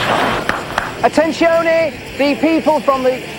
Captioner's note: clapping